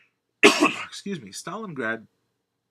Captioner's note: sneezes